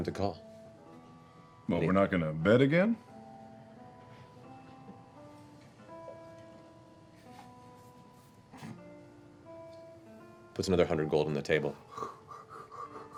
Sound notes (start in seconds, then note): 3.6 silence